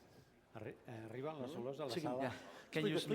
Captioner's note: non-english speech